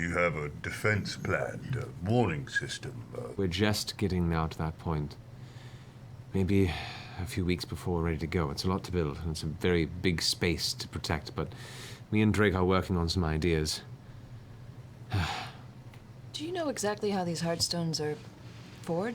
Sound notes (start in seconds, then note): 15.1 sighs